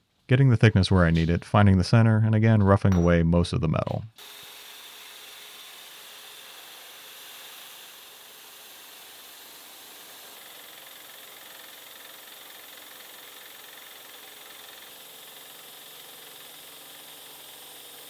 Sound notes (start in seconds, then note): 4.4 machine whirring; 10.6 machine whirring; 14.9 machine whirring